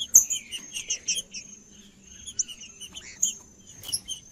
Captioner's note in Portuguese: trinca ferro cantando